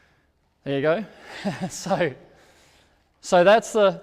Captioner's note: laughs